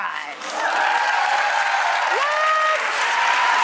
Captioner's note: applauding